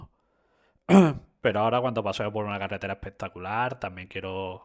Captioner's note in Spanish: carraspeo